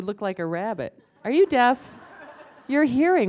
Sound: laughter

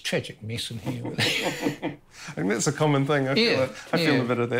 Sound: laughs

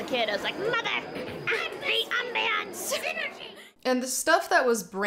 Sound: goblin voice

